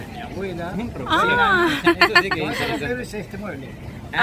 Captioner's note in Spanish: Risas